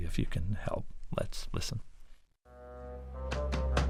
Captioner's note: soundbite of tv show, "curb your enthusiasm"